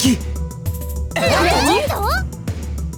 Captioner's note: various expressions of surprise